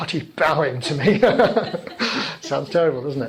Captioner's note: laughing